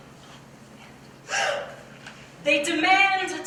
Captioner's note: gasp